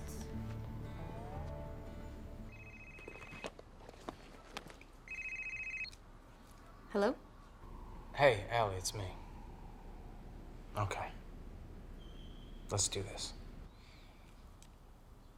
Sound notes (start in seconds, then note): 2.3 phone rings